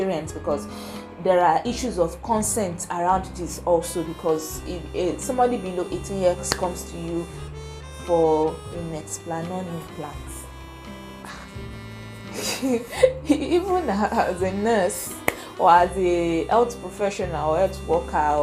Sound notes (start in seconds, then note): 12.3 giggles